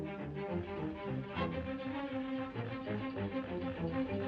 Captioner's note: chugging